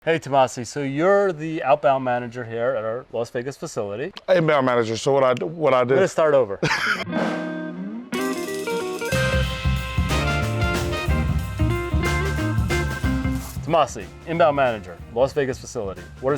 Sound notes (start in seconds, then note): 6.6 laughs; 8.1 upbeat jazzy music